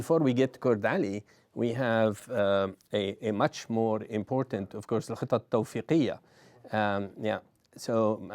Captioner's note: non-english